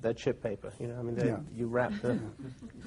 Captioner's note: laughter